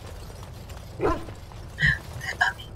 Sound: bark

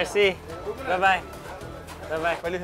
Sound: men speaking foreign language

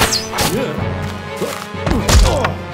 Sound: grunts

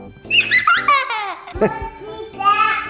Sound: giggles

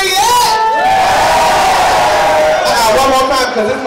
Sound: crowd cheers

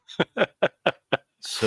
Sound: laughs

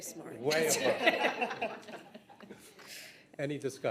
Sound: all laugh

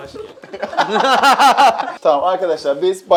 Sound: laughter

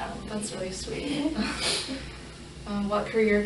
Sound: laughing

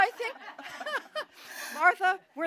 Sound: laughter

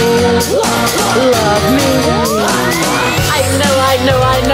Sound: hah hah

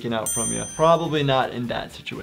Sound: loud dinging

